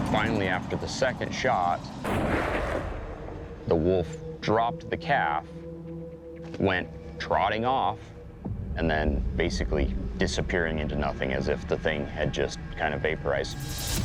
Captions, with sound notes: Finally, after the second shot... -(gunshot) -(wolf snarling) ...the wolf dropped the calf, went trotting off, and then basically disappearing into nothing as if the thing had just kind of vaporized.